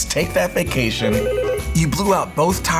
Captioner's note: phone ringing